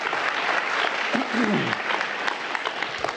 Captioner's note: applause